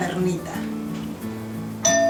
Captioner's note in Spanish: Sonido de timbre